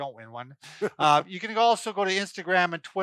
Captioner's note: laughs